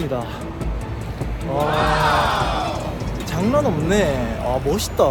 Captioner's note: exclamation